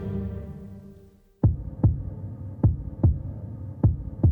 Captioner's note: heart pounding